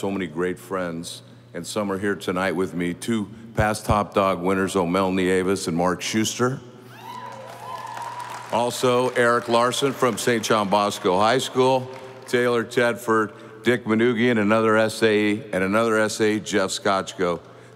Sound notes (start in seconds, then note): 7.0 audience applauding